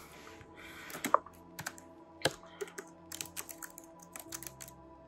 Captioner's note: keyboard clicking